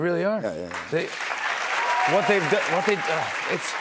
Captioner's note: cheers and applause